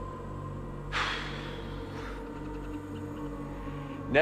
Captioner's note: sighs